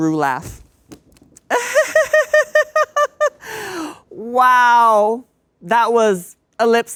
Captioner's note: laughs; imitates Ru laughing